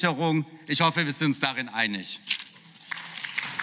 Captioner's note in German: Beifall